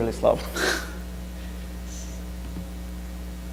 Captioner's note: laughs